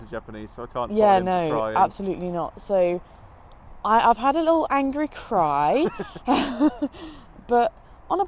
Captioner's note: both laugh